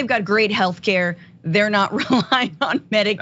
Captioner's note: laugh